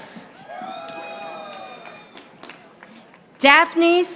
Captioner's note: audience applauding